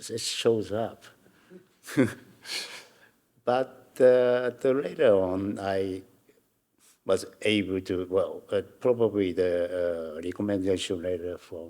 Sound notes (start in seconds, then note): 1.8 audience member chuckling; 1.9 Hiroshi chuckling